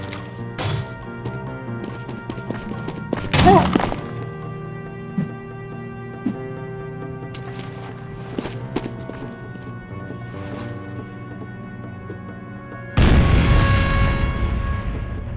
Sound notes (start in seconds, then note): 13.0 boom